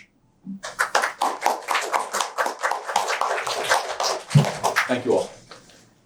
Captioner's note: applause